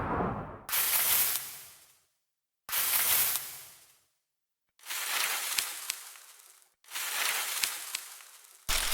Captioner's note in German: raschelndes Laub